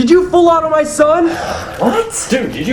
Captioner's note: sighs